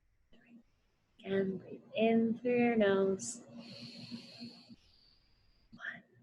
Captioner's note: inhales